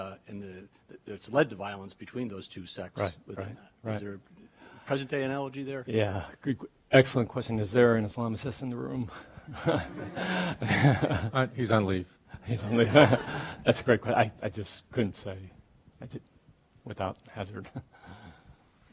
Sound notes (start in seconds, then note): 9.6 audience laughing; 12.6 laughing